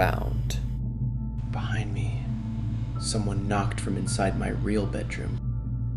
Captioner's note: whispers